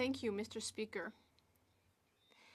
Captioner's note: speaking French